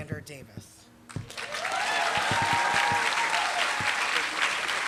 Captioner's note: applause